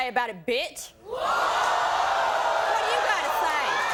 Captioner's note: audience gasping